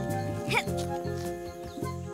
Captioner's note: grunt of effort